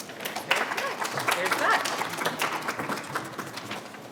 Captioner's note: applause